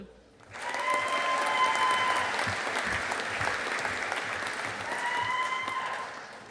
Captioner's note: audience applauding